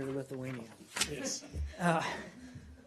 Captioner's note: laughter